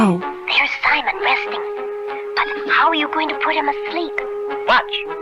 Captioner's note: whispering